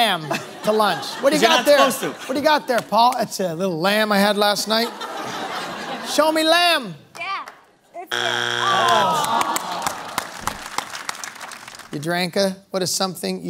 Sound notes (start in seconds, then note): 6.3 laughter; 8.1 buzzer sounds; 10.6 audience groans